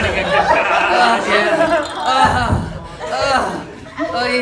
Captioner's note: groaning